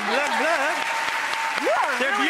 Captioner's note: audience claps